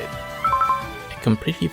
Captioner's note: pause menu sound